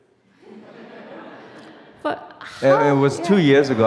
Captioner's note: audience laughs